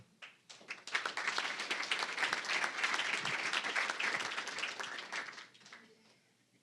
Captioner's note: applause